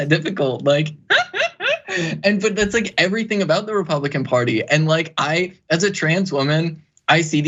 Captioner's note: laugh